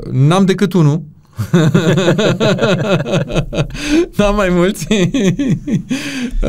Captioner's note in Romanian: Râsete